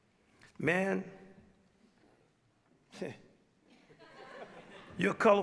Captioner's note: chuckles; audience members laugh